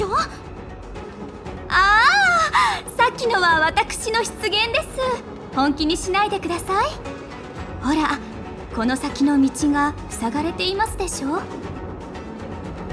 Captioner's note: sigh